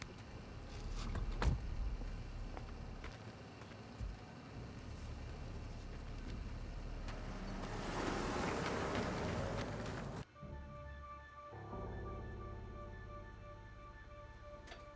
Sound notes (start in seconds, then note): 0.8 door shuts; 7.6 car hums; 9.3 dark tense music